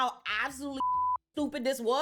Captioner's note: beep